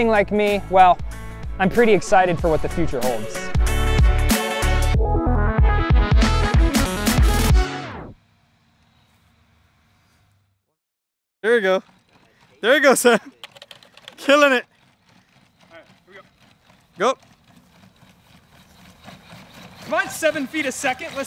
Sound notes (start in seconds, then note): 4.1 upbeat pop music; 18.6 robot walking